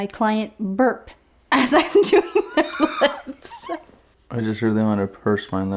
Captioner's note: laughs